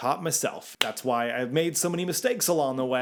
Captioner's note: hands tapping